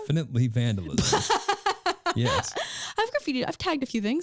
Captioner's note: laughing